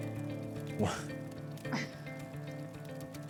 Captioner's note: both chuckle